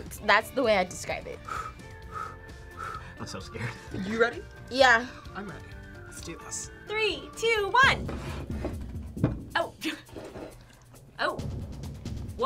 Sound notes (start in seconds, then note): 3.8 laughs; 9.6 laughs